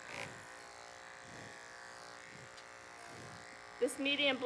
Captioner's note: clippers buzzing